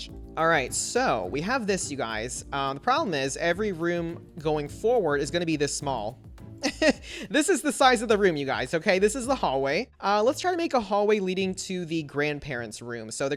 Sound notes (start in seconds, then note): 6.6 laughs